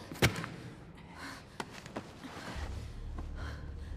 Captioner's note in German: schweres atmen